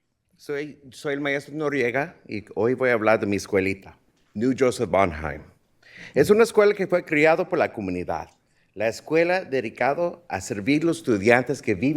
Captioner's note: speaking in spanish